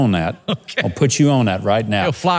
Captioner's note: chuckles